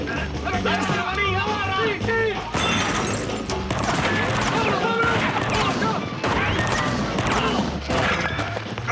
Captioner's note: men yelling